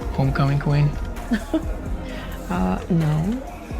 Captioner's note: laughing